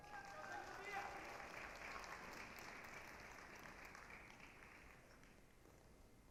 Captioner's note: applause, cheering